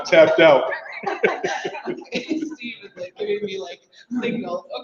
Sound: laugh softly

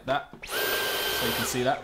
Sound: vacuum whirring

